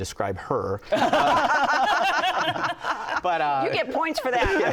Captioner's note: laughter